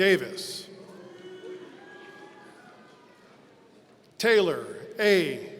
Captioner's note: audience cheering